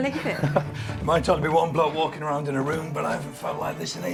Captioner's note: laughs